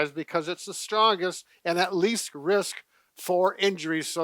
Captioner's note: none